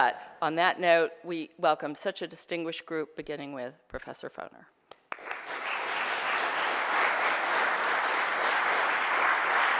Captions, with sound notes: But on that note, we welcome such a distinguished group, beginning with Professor Foner. (applause)